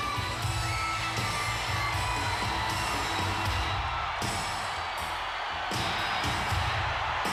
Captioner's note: spectators cheering; upbeat music